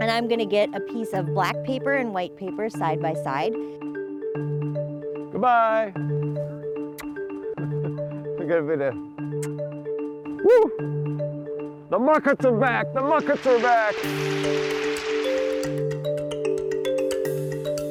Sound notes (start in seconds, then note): 6.9 kissing; 9.4 kissing; 14.7 soft upbeat music